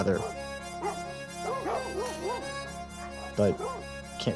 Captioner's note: dogs barking